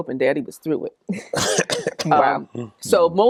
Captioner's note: laughing